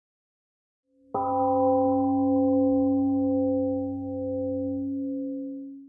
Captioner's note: temple gong rings and fades